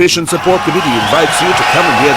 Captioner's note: wild applause and cheering for 22 seconds